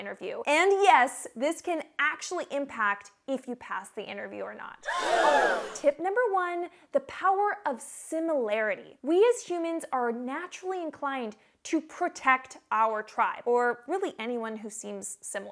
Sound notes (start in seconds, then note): 4.8 people gasping